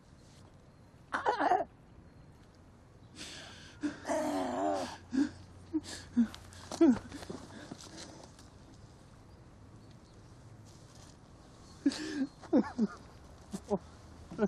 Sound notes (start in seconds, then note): 3.8 Laurier crying; 4.9 choking gasp; 11.8 sobbing